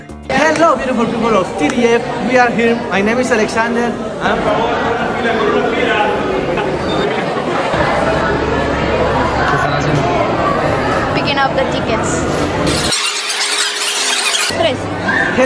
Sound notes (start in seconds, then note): 4.3 people chattering indistinctly